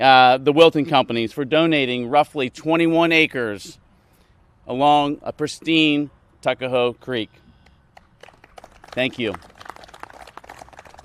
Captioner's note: applause